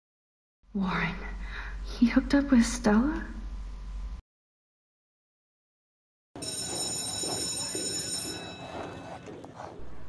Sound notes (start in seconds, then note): 6.4 school Bell Ringing